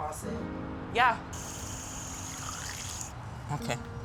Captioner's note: water running